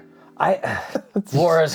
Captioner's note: laughs